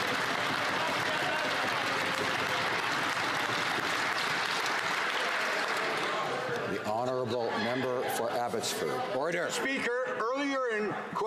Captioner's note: some Applause